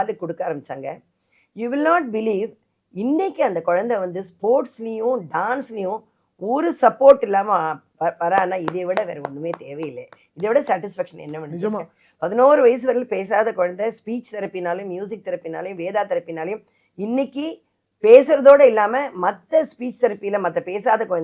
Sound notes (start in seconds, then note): 8.4 applause